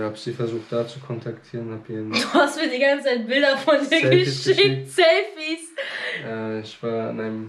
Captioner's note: laughing